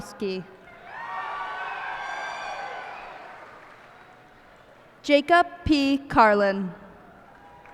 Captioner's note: cheers and applause